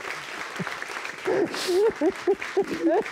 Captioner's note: sobbing